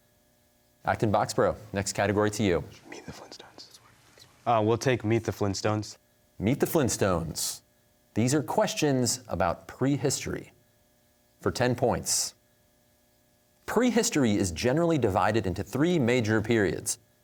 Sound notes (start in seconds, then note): 2.6 whispering